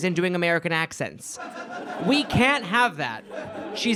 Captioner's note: audience laughs